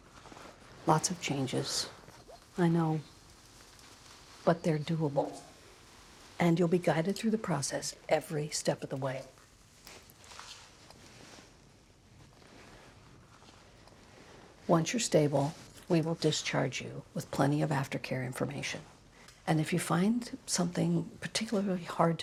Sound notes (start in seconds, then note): none